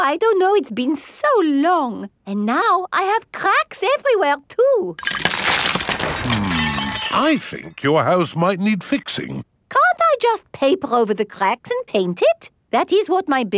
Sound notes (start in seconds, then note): 5.0 cracking